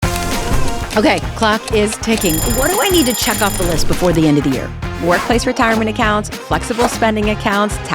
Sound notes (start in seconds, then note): 2.1 alarm